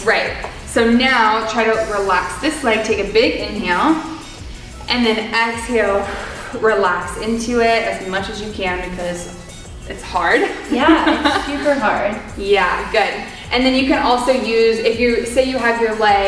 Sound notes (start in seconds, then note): 6.3 loudly exhaling; 10.3 giggling